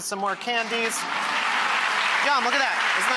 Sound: audience clapping

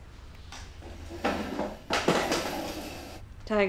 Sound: chair slides

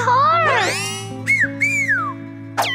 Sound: whistles

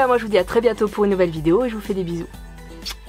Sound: kiss

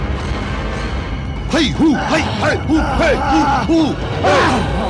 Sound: grunts

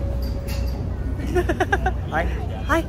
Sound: laughs

